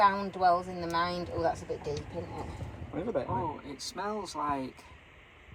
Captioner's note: laughing